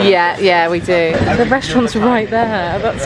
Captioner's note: continues chattering